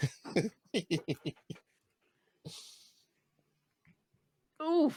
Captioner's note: laughing